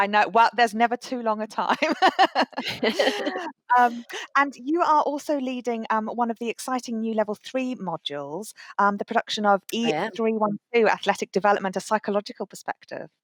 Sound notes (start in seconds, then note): 1.7 laughter